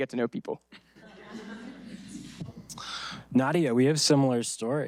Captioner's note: audience laughing